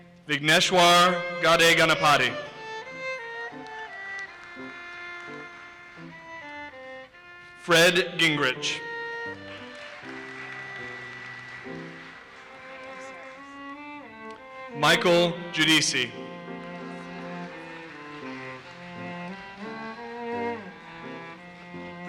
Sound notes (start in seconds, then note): 3.5 audience applauses; 9.2 audience applauses; 16.6 audience applauses